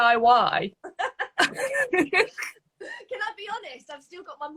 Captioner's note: both laughing